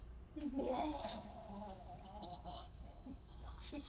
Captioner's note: devouring noises